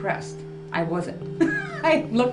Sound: laughs

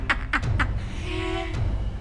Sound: laughs louder; inhales

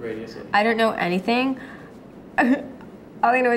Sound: laughs

